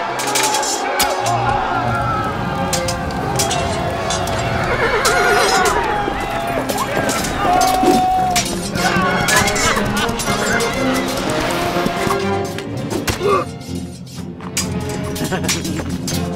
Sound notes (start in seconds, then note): 10.3 cackling